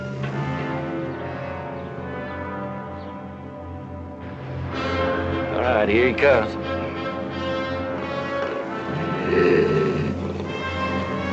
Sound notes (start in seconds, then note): 8.4 growling